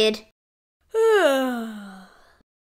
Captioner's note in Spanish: Bosteza